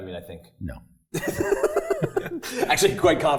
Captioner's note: laugh